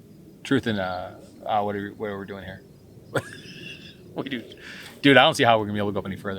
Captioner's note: laughing